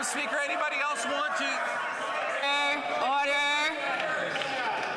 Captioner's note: some Applause